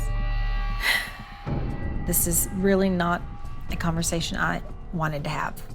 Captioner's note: exhales